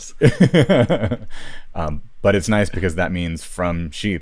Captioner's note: laughs